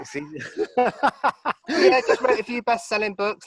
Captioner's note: both laughing